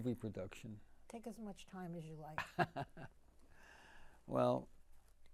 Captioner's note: laughing